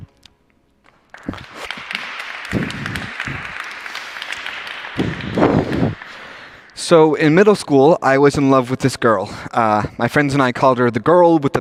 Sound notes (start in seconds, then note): 0.8 applause